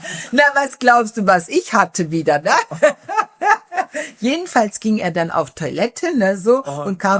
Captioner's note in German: gelächter